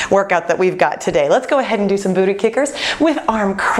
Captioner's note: none